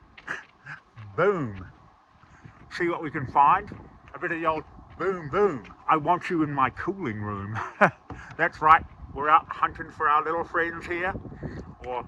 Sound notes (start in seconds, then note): 0.6 chuckles; 7.2 chuckles